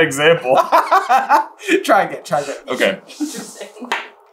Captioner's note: laughing